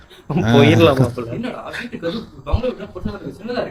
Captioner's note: laughter